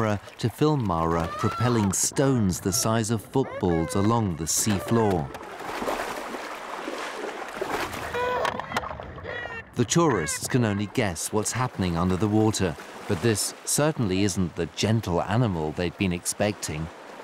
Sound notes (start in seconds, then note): 8.0 cries